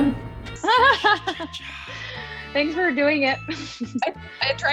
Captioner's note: laughing